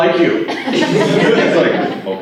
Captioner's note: laughter